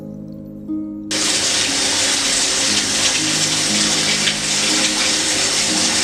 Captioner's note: shower Running